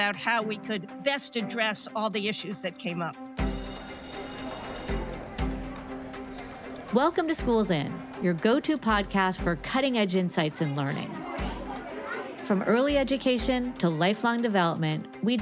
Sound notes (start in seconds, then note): 3.4 bell ringing; 3.7 bright music; 3.7 student speaking faintly